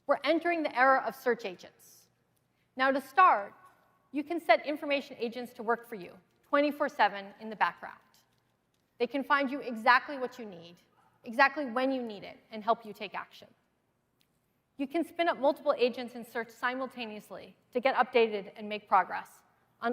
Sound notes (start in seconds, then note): none